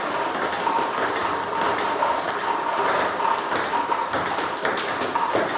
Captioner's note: ball ping pong hitting continues